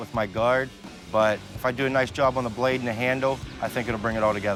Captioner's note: none